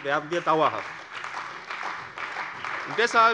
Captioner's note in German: Beifall bei der CDU und dem BÜNDNIS 90/DIE GRÜNEN